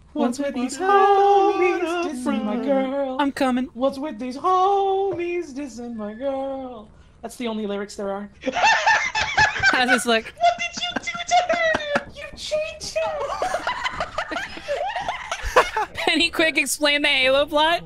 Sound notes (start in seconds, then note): 8.6 laughs; 13.1 all laugh